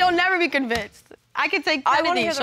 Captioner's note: scoffs